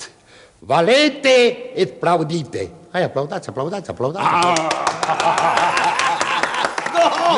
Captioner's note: sounds of applause